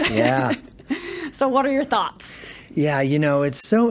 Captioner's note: laughs